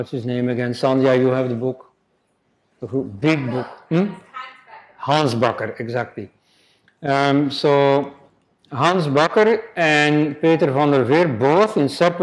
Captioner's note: response from the audience